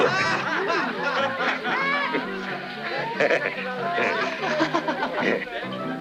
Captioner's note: bandits laughing; bright music continues